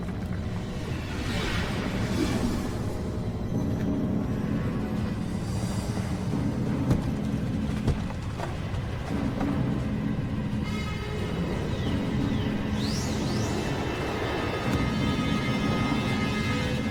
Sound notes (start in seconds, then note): 0.6 epic music; 0.6 rocks falling